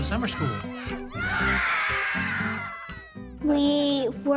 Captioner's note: kids cheering